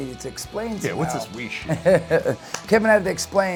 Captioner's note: laughs